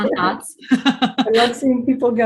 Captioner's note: laughing